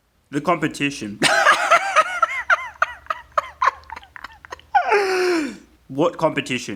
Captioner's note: hysterical laughter